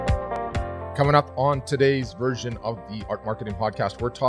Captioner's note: voiceover